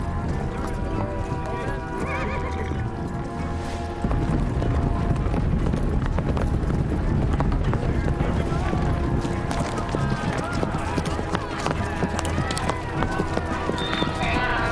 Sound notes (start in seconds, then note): 10.2 cheering